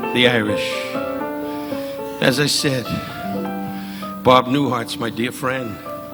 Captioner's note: audience laughing